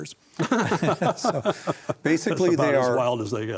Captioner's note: both laugh